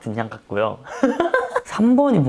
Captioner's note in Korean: 의미심장한 웃음